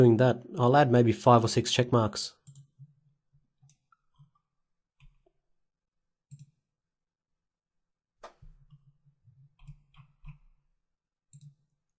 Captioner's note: silence